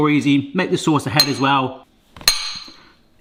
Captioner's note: fork clangs